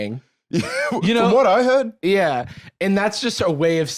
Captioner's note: laughs